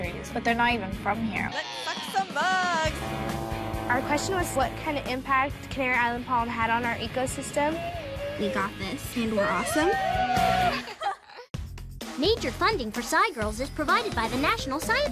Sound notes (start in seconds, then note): 9.2 all cheer